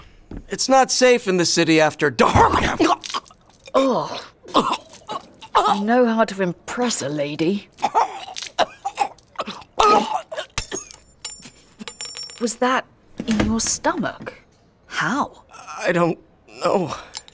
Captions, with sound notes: It's not safe in the city after dark. [vomits] -Ugh! -[retches] You know how to impress a lady. [Davion heaving] [vomits] [clanking] Was that in your stomach? How? [whimpers] I don't know.